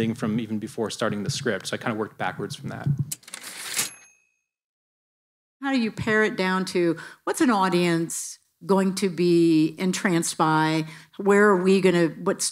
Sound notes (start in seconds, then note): 3.2 typewriter ding